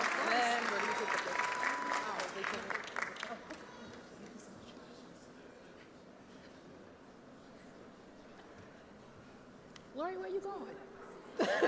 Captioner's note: cheers